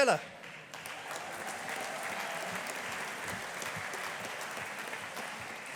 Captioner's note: audience applauding